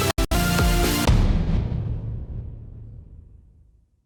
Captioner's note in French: Boum